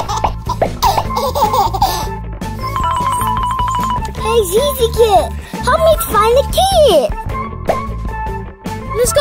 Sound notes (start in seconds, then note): 0.0 babies laughing; 2.6 bells ringing